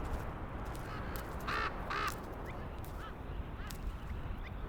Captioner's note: ravens cawing